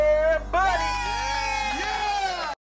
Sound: group applauding

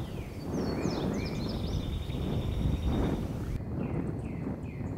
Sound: birds and wind noise

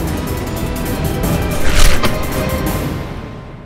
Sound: gunfire

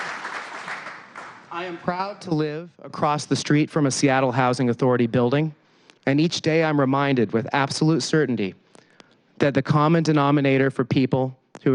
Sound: applause

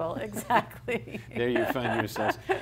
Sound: laughs

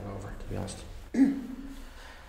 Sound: coughs

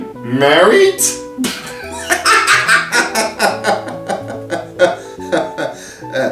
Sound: laughs; laughter dies down

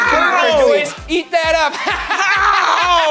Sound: laughs

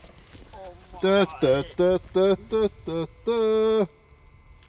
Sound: humming

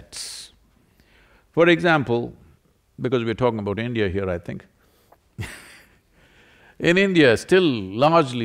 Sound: laughs

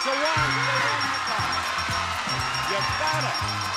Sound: audience cheering

